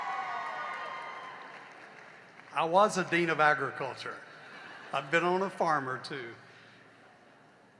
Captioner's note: cheering and applause